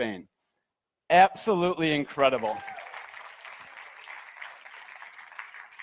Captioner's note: audience applauds